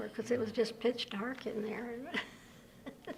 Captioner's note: laughter